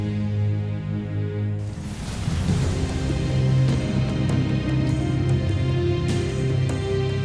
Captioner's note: sparkling whoosh